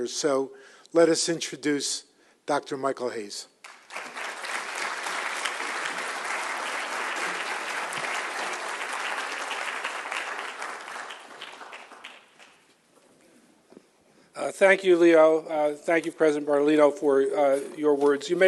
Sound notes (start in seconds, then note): 3.6 applause